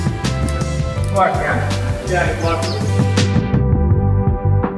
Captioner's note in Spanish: música fuerte y emocionante; exclamaciones